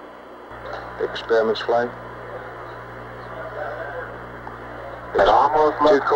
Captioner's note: mission Control Audio